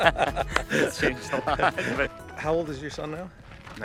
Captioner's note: laughs